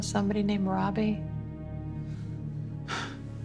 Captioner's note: exhales sharply